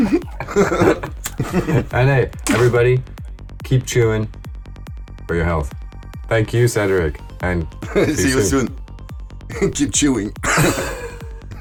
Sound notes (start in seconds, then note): 0.0 laughters